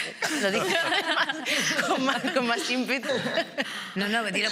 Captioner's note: laughing